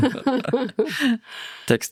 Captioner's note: laughing